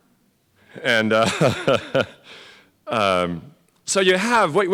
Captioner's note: laugh